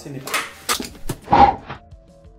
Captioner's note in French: bruit de souffle